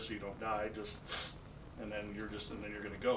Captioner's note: inhales